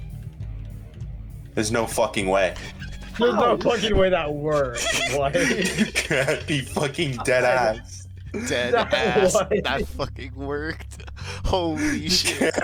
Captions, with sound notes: There's no fucking way. No fucking way that works. (laughing) You can't be fucking dead ass. Dead ass, that fucking worked. Holy shit.